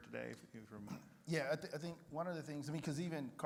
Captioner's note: clears throat